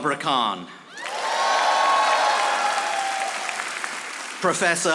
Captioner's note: audience applauding